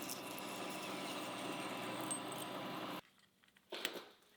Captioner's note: tool humming